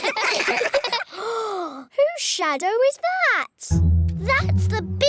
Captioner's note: all giggle; gasps